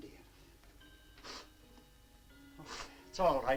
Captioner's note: Mrs. Jamieson sniffs